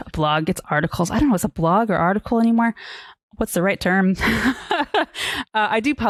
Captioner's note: laughs